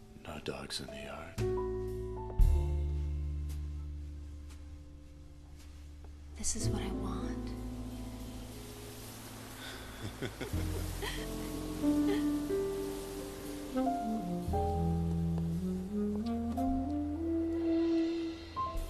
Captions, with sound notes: No dogs in the yard? This is what I want. (CHAZ AND MADELAINE LAUGHING)